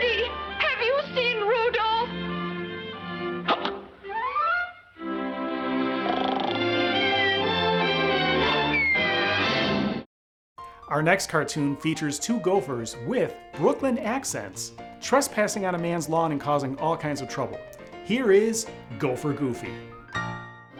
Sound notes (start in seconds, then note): 3.6 Petey hiccups; 6.1 Petey snoring